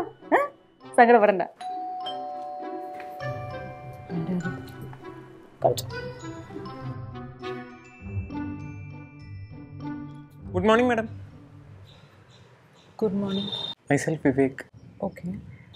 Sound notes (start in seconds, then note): 1.6 door bell rings